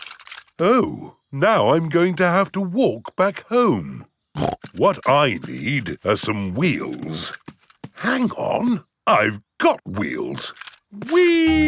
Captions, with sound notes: Oh! Now, I'm going to have to walk back home! (SNORTS) What I need are some wheels. Hang on. I've got wheels!